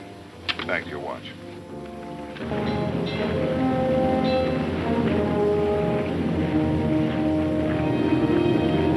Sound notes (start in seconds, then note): 2.7 bell clanging; 2.7 low adventurous music